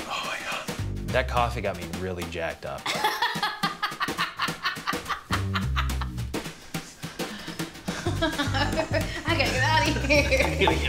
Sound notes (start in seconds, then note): 2.8 laughing